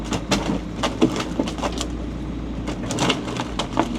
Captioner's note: chunks thudding